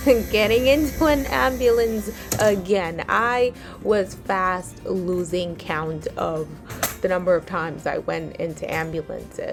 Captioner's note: sound of ambulance ramp lifting